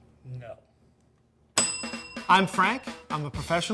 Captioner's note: bell dinging